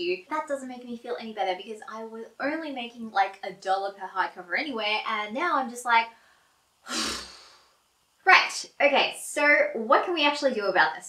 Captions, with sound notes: That doesn't make me feel any better, because I was only making like a dollar per hardcover anyway, and now I'm just like... *sigh* Right. Okay. So what can we actually do about this?